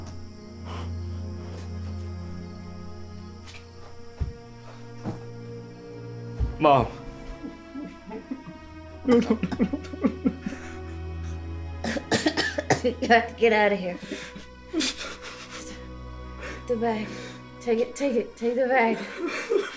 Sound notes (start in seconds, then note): 0.0 Alan gasping; 0.0 tense music continues; 7.1 Carrie coughing; 9.0 Alan crying; 11.8 Carrie coughing